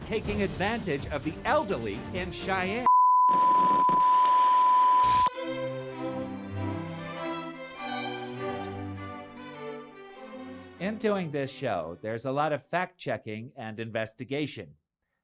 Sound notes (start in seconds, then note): 3.1 buzz; 9.1 music fades